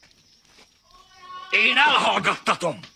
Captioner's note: Joseph continues wailing